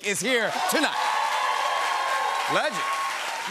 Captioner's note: cheers and applause